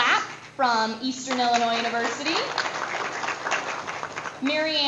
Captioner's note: audience applause